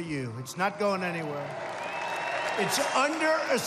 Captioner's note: applause